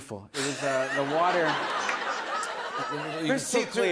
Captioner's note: laughter